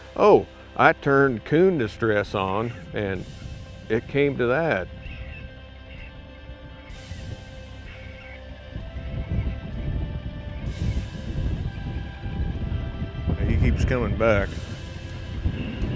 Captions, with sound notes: Oh, I turned coon distress on and it came to that. (watchful music) (wind blowing) He keeps coming back.